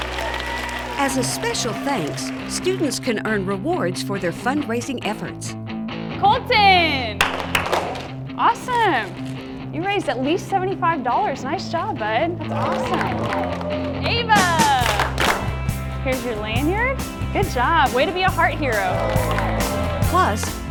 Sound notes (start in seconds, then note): 0.0 applause; 7.2 applause